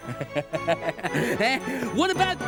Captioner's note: laughing